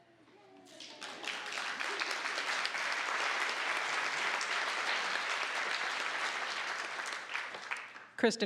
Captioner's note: applause